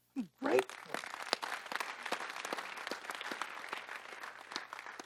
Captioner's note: audience clapping